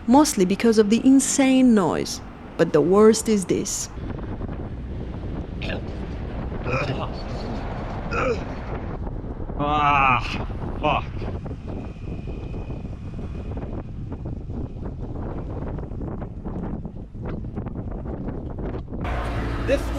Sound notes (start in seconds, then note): 8.1 grunting